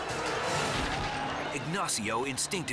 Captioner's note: crashes